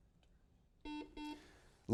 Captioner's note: buzzer rings